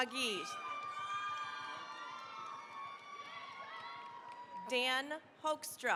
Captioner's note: cheering, applause